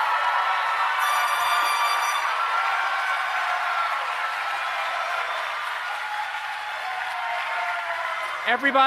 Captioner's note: applause